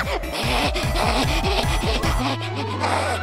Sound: panting

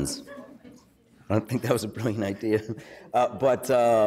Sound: laughs

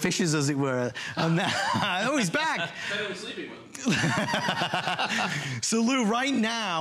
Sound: laughter

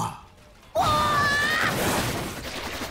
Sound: screaming

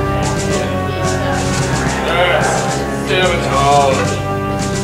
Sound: sinister grumbling

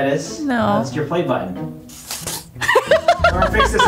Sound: laughing

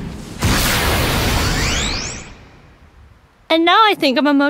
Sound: light whooshes

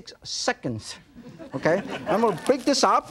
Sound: audience laughing

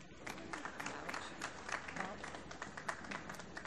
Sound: applause

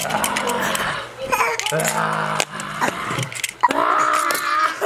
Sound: screams

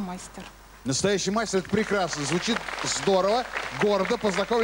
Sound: applause

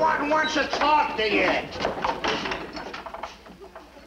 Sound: door clanks

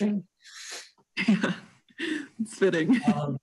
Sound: laughs

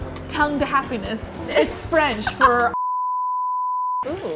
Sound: beep

